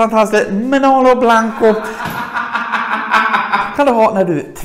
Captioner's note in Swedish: Charlotte skrattar